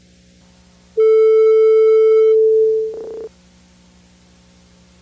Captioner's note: distorted chime